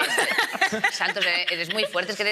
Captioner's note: they laugh